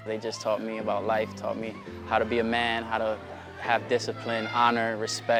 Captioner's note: none